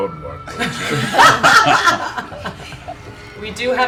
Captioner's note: laughter